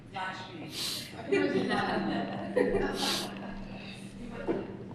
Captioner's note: laughter